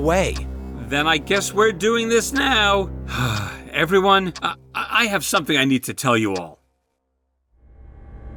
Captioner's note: sighs